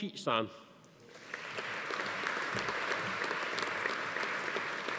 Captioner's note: audience applauding